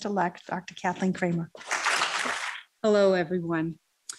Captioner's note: applause